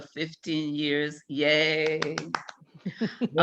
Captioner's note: claps